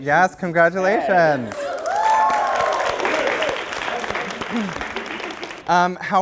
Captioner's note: applause